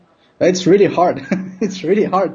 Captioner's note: laughs